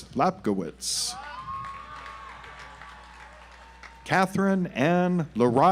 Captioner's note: audience applauds